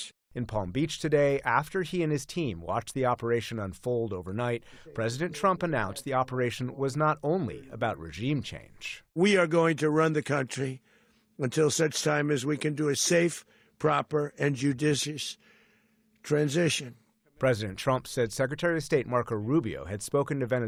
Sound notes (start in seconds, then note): 0.8 voice-over; 17.9 voice-over